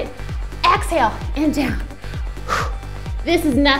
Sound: gasps

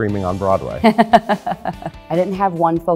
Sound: laughs

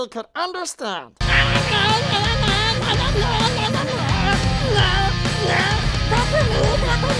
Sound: incoherent yelling

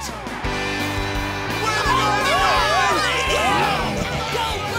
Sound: cheering

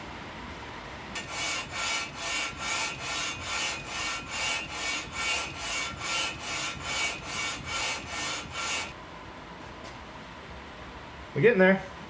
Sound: metal rubbing sound

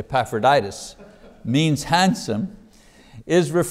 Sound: man laughs

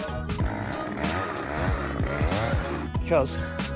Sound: chainsaw revs

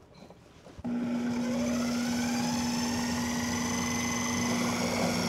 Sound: processor whirring

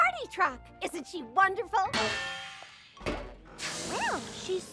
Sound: clanging; air hissing

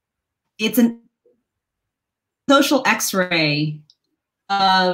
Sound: audio distorted

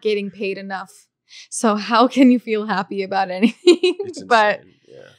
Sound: laughs

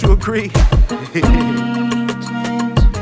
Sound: laughing

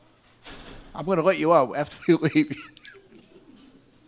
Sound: laughs

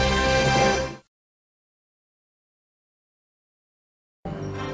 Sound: silence; majestic fanfare playing

